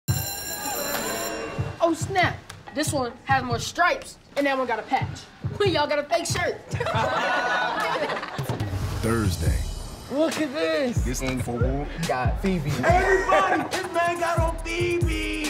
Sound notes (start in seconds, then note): 0.0 bell ringing; 6.7 laughter